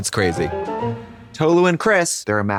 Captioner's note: whimsical chime